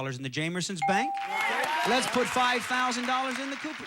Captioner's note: audience applauding